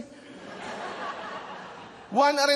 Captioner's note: laughter